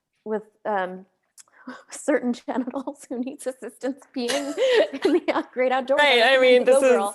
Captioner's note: laughs